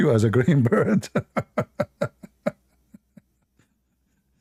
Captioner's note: Ketawa